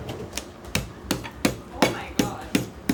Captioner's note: rolling pin banging